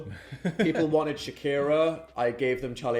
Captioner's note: laughing